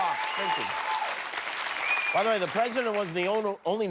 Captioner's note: cheers and applause